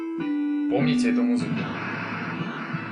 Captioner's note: Contra startup sound